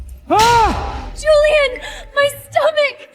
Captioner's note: screaming